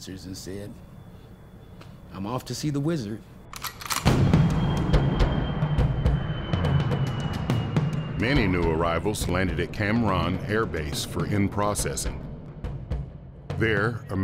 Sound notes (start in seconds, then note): 3.4 gun cocking; 4.6 upbeat instrumental music; 6.3 plane engine running